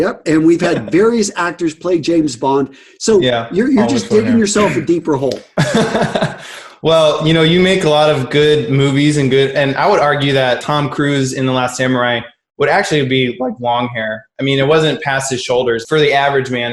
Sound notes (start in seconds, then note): 5.5 laughs